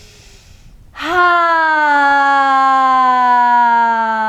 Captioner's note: sighing deeply